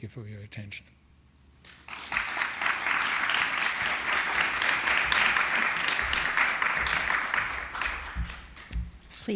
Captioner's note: applause